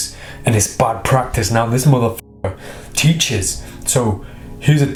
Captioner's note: swearing